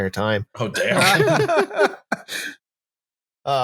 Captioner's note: laughter